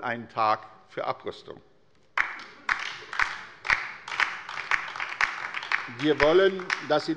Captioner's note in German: Beifall bei der LINKEN